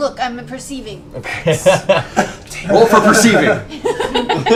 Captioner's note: laughs; laughter